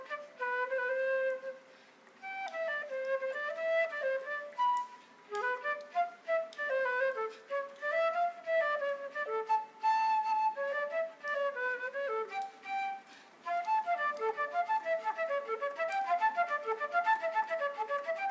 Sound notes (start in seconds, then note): 10.7 speaking in foreign language